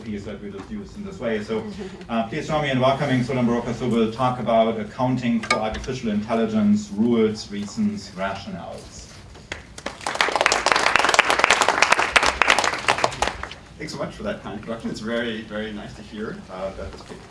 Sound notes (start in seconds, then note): 9.4 applause